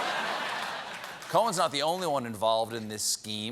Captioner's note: laughter